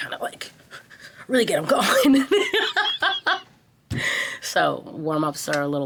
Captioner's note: panting; laughing